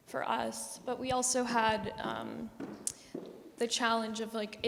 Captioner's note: footsteps